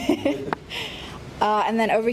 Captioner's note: laughs